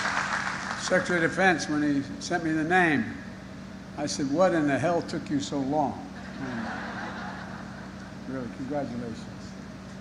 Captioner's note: applause